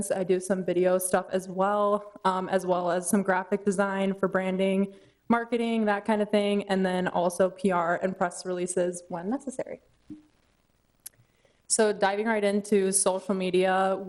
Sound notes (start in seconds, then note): none